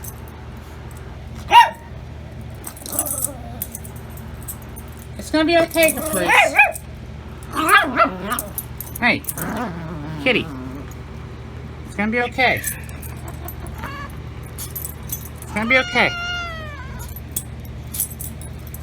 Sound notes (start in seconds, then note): 1.4 Ella barks; 7.3 Ella growls at chews on Caprice; 12.3 Caprice growls; 15.3 Caprice meows